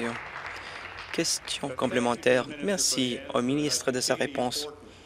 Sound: applause

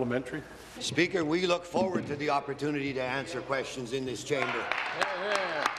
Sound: applause

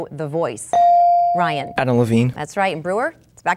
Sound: dinging

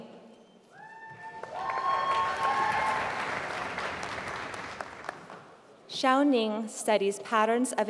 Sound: applause

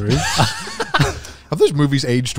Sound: everyone laughs

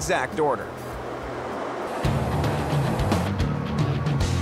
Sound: machine whirring; fast-paced rock music

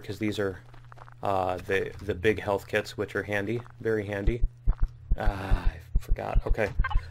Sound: heartbeats

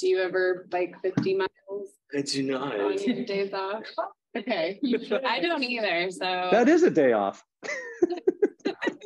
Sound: laughter

